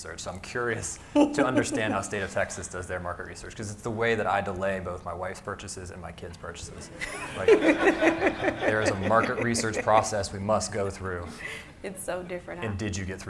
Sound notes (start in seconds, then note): 7.0 laughs